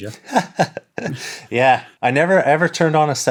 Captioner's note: laughs